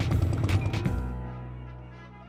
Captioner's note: horns honk